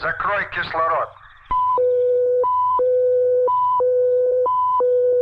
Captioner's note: soldier speaking in Russian; machinery beeping